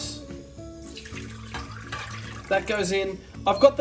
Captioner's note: pouring liquid